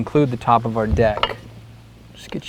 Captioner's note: clang of aluminum square hitting wood, no additional audio